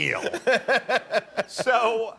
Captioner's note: laughter